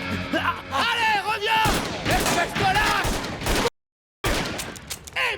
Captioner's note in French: Crier en russe